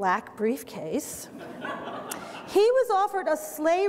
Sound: audience laughter

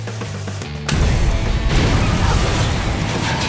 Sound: upbeat music; gunshot; upbeat music

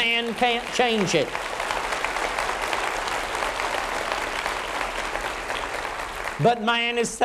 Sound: applause

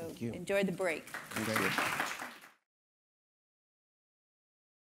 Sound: attendees clapping

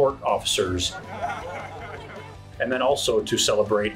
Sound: crowd laughing

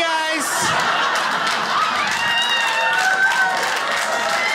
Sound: crowd cheers

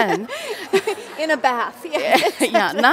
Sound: laughs

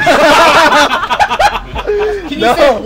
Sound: laughter

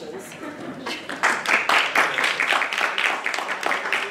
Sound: audience applauding

